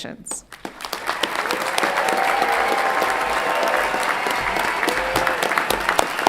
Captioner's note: everyone clapping and cheering